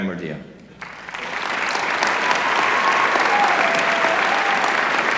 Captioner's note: applause